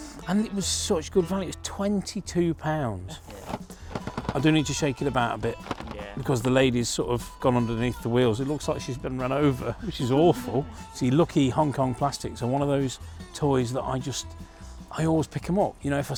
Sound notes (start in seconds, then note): 3.2 rattling